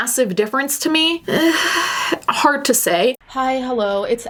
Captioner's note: sighing